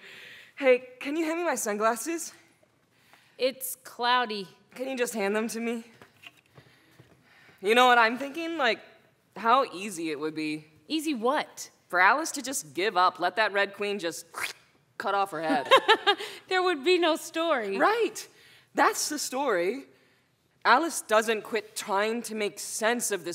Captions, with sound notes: HEY, CAN YOU HAND ME MY SUNGLASSES? IT'S CLOUDY. CAN YOU JUST HAND THEM TO ME? YOU KNOW WHAT I'M THINKING? LIKE HOW EASY IT WOULD BE. EASY WHAT? FOR ALICE TO JUST GIVE UP. LET THAT RED QUEEN, [SQUISH] JUST CUT OFF HER HEAD. THERE WOULD BE NO STORY. RIGHT. THAT'S THE STORY, ALICE DOESN'T QUIT TRYING TO MAKE SENSE OF